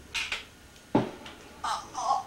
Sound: bullet hits; grunts weakly

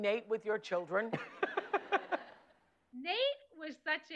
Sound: laughs

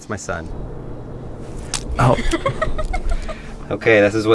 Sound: laughing

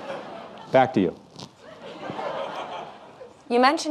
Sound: audience laughing

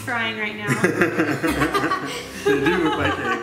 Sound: laughing

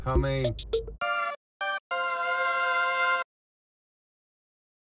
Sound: quirky sound effect

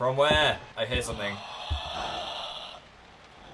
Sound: disturbing electronic breathing

